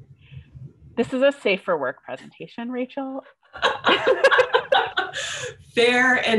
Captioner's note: laughter